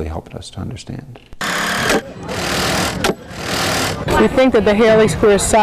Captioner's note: construction noise